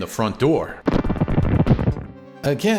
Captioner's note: boom!